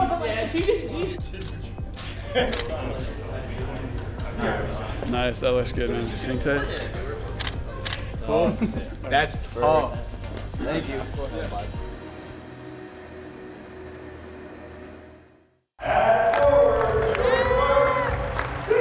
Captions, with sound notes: [Camera Clicks] - Nice that looks good man. [Camera Clicks] - That's tough. - Thank you. (crowd applauding)